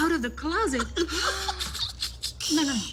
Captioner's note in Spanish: Risas